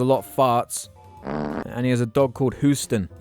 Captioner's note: flatulence